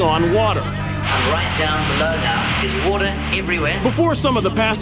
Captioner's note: British accent